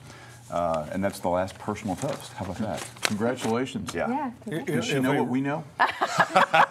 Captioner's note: laughter